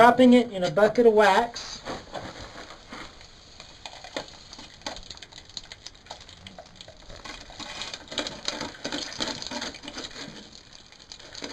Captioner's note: the Metal Makes a Sizzling Sound